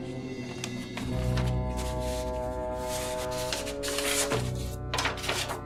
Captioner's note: extracting paper from file